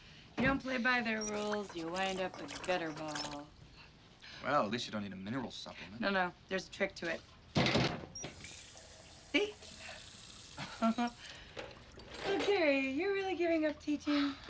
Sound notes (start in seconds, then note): 8.0 water running; 10.6 chuckles